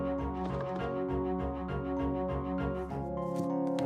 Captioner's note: rattling